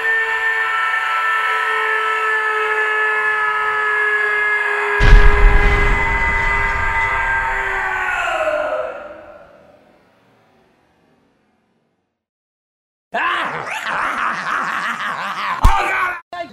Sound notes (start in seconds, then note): 13.4 Angry Grandpa vibrato laugh